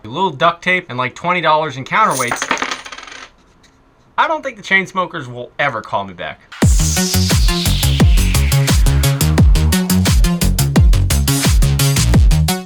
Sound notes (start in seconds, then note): 2.0 metal clattering; 6.6 techno music